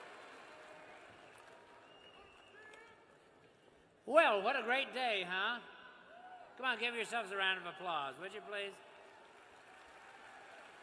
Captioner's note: cheers and applause